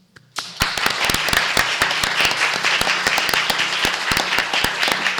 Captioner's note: applause